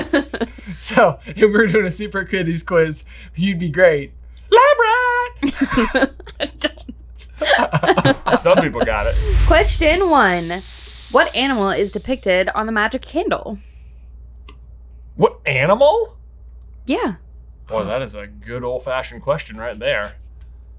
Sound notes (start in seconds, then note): 5.3 laughing